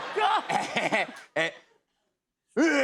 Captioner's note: laughs